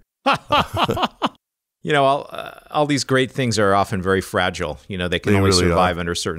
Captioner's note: laughs